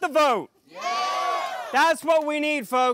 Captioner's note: crowd cheering